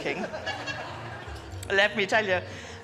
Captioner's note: guests laughing